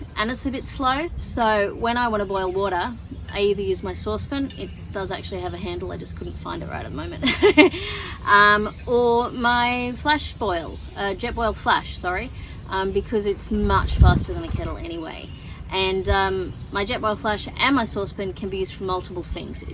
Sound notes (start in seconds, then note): 7.1 laughs